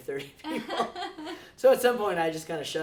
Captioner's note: laughs